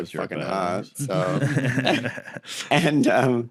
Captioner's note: laugh